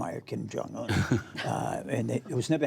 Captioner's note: laughter